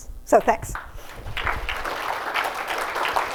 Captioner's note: applause